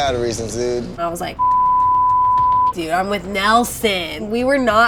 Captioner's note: beep